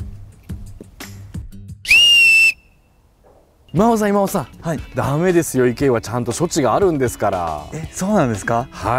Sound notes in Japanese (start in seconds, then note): 1.8 ホイッスルの音